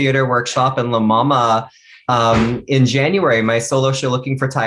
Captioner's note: chuckles